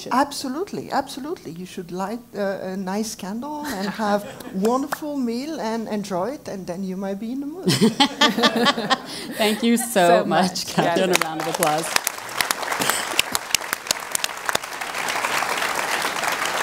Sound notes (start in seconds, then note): 7.6 laugh